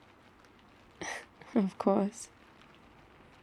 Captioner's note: laughs